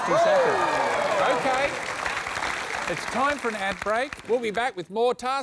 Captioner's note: applause